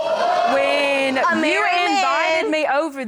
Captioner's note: audience exclaiming